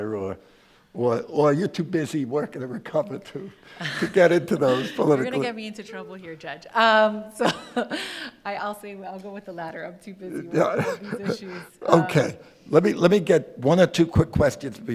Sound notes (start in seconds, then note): 10.4 judge laughs